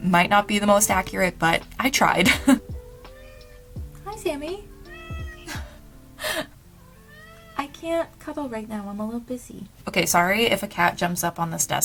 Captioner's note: meow